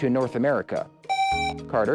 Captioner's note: buzzer